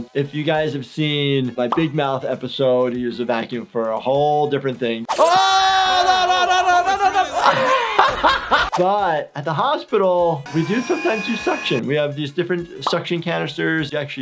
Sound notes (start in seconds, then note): 5.2 distressed yelling; 8.2 laughs